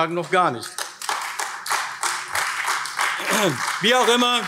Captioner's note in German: Beifall AfD